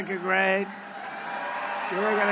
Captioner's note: applause